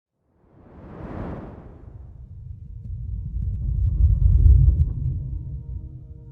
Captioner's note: air whooshing